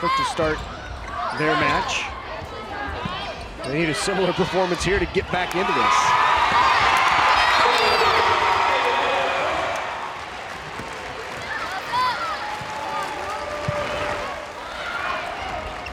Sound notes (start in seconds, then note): 6.5 crowd cheering; 11.0 players yelling